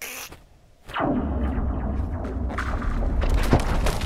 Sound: cracking Reverberates

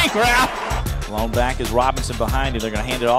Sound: voiceover

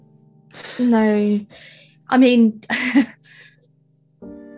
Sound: laughs; laughs

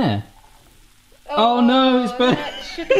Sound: laughs

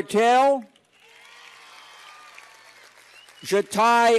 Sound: cheers and applause

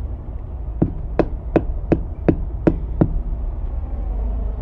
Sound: dull thumping

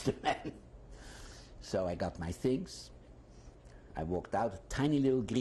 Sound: laughs

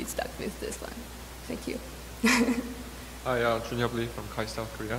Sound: laughs

